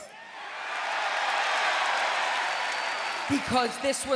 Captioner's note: audience cheering